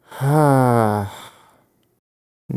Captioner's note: sighs